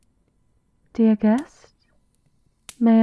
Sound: Seraphina's voice, muffled by the door

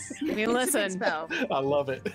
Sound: laughs

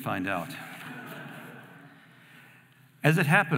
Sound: audience laughing

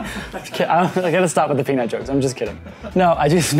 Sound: laughs

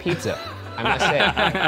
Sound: both laughing

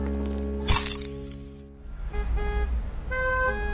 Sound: camera shutter snaps; car horns honking

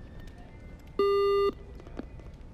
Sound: beep

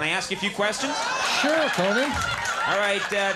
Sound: audience laughing

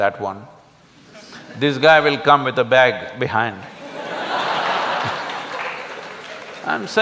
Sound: laughter\Applause

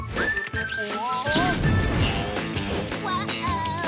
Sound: zapping

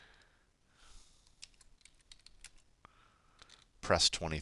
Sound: typing

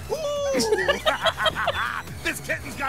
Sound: laughter

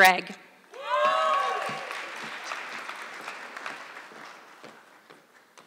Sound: audience clapping

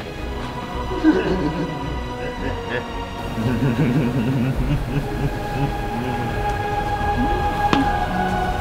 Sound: creepy laugh

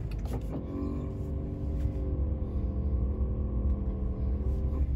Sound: engine roaring

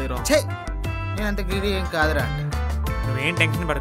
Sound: sarcastically

